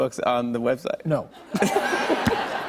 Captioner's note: laughter